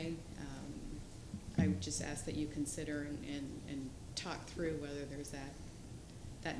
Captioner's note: off microphone